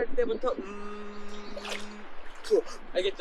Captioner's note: exhaling through the nose